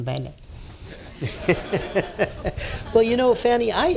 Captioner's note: laughter